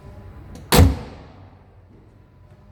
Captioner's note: slam!